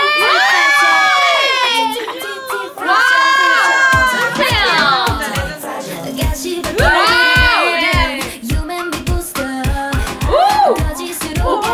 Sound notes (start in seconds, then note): 3.8 hehe